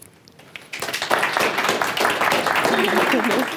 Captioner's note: applause